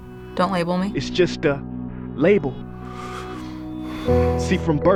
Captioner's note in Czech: Předoucími povzdech